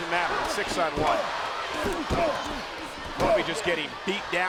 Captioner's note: crowd yelling; wrestlers punching